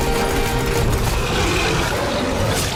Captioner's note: quiet roaring